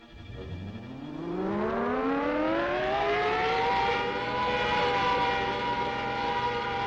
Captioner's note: siren wails; Juggernaut whirs